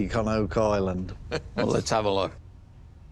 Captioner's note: chuckles